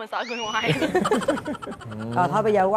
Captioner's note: laughs